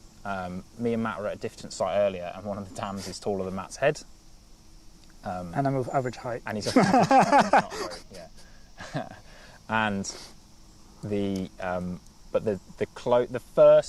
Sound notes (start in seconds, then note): 6.6 laughter